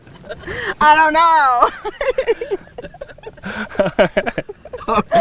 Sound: laughs

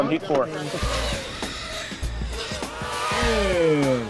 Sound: drone racing around obstacle course

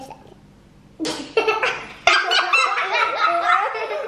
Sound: laughing

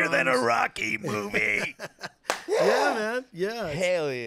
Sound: laughing

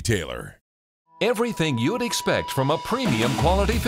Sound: voiceover

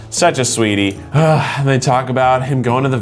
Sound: sighs

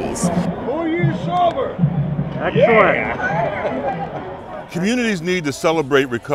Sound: background voices

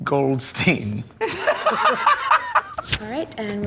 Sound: laughter

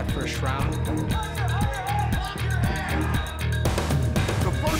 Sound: indistinct chatter

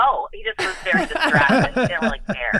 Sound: all chuckling

